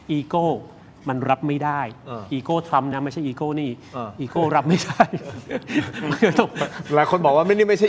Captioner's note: laughs